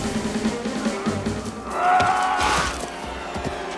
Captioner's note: yelling